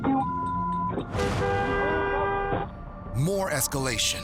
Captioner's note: honking